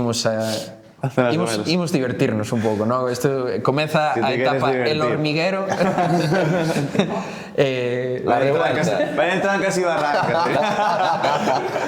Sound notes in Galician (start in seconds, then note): 5.6 risas; 9.9 risas